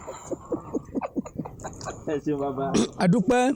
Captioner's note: laughter